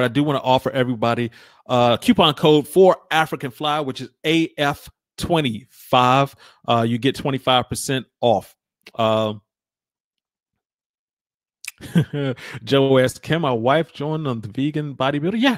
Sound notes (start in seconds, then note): 11.6 laughs